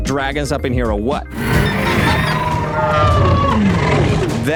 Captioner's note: dragon screeches